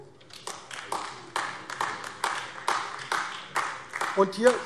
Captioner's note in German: Beifall AfD